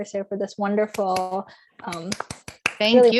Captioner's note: applause